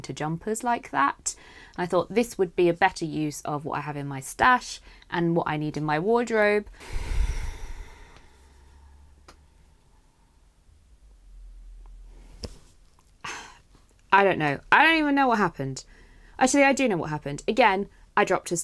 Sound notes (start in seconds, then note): 10.0 sighs